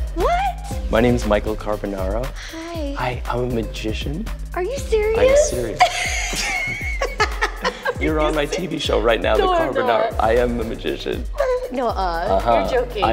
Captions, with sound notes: What? My name's Michael Carbonaro. Hi. Hi. I'm a magician. Are you serious? I'm serious. [ Both laugh ] You're on my TV show right now, "The Carbonaro --" No, I'm not. I am a magician. Nuh-uh. You're joking.